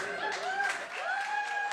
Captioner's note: cheering